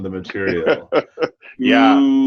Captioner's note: laughs